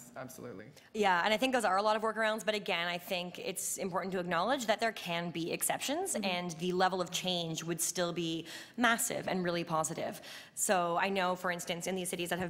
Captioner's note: audio skip